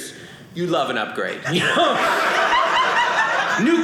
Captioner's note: audience laughing